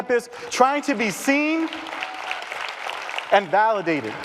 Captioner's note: applause and cheering